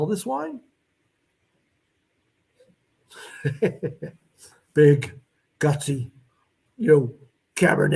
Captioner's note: laughter